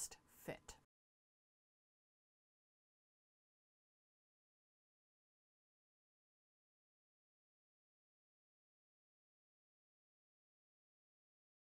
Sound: no Sound Present

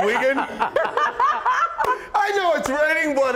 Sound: laughter

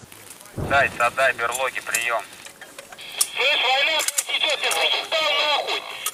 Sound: chatter

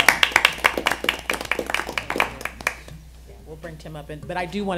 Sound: applause

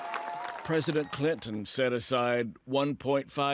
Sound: crowd applauding

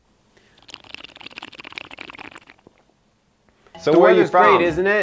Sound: chugging drink

